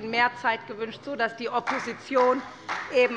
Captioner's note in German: Beifall bei der SPD